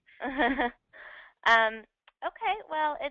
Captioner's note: laughing